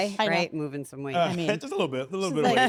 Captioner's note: laugh